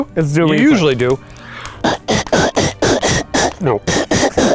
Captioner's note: beatboxing